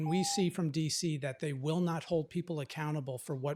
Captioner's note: timer tone